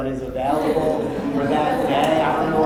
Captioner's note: laughter